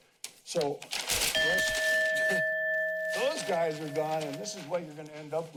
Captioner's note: chime